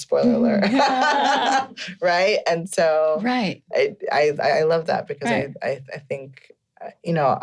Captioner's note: laughing